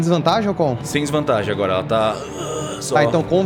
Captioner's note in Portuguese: grunhidos